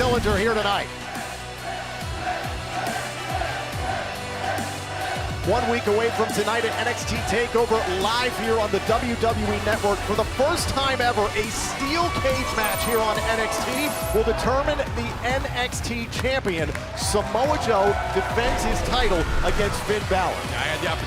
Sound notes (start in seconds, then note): 2.4 crowd cheering